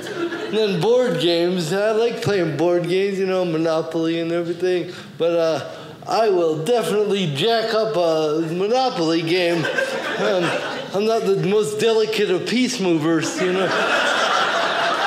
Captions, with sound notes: And then board games. I like playing board games. You know, Monopoly and everything. But I will definitely jack up a monopoly game. I'm not the most delicate of piece movers. (audience laughing)